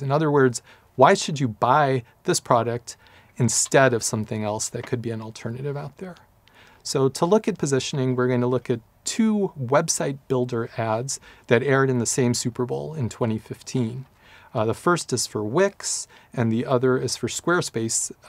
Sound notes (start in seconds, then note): none